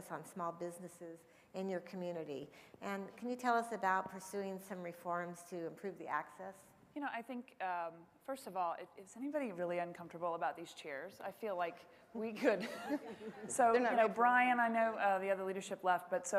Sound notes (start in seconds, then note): 12.6 laughs